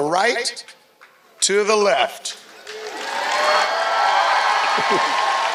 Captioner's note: applause